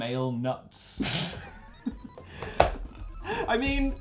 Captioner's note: laughs